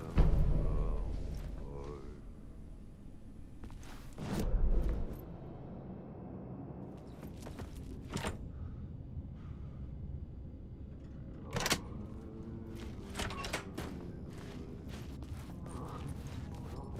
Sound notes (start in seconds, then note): 13.0 door opens; 14.6 footsteps